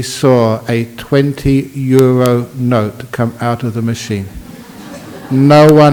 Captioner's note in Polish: Laughs